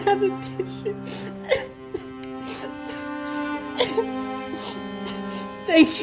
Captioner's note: more fake crying